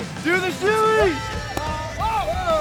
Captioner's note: cheering